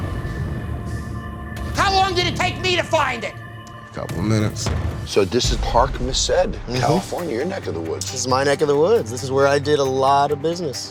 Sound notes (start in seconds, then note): 1.2 yelling